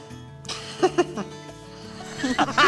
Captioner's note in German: Kichern; lacht laut